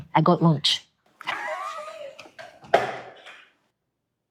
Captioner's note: laughing